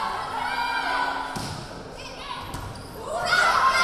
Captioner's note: yelling